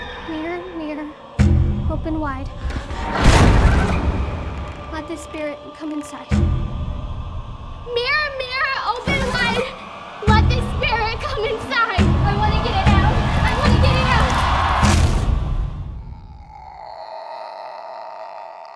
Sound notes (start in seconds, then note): 8.9 yelling; 15.8 groans